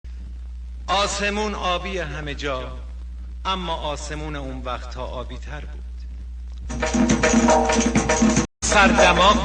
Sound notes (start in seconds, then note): 1.0 man speaking Persian; 6.8 upbeat music